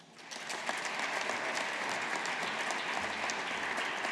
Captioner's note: audience applauding